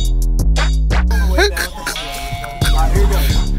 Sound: continued laughter

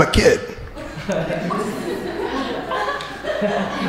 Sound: crowd laughing

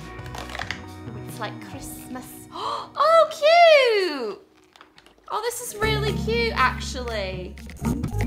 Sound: gasp

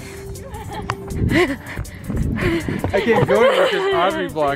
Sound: fast panting

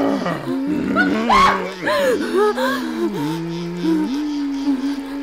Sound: lizard fish grunts; Renee screams

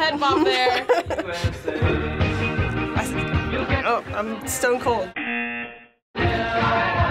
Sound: buzzer

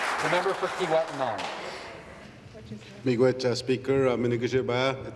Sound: applause

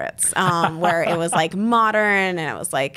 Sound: laughs

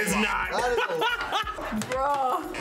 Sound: laughs

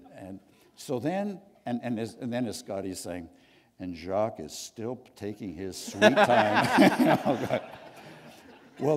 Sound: laughter

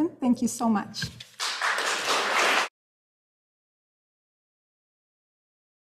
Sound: audience applauding

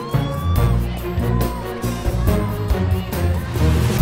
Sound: crowd cheer and scream

